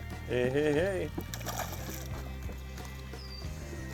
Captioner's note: voiceover